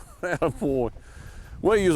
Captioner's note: chuckling